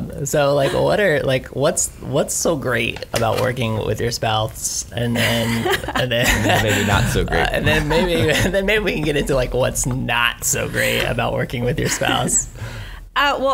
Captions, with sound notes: So, like what's so great about working with your spouse? (laughs) - Or maybe not so great? - Then, maybe we can get into what's not so great about working with your spouse.